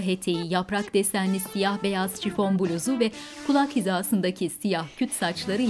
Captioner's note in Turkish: Ayak sesleri